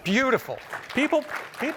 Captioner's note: applause